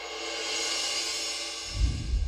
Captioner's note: air whooshing